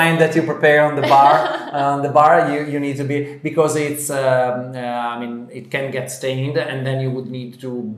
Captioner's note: laughter